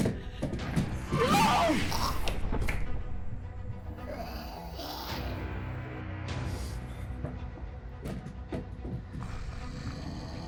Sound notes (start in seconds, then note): 3.9 creature grumbling; 3.9 creature growls; 7.6 tense scary music